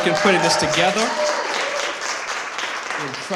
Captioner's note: applause